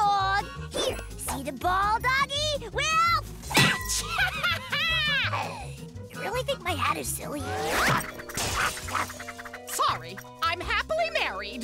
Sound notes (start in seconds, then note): 3.6 laughing; 7.5 barking